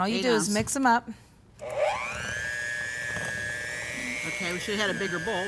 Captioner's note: mixer whirring